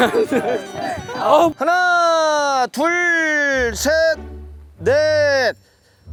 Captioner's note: taking breaths to relax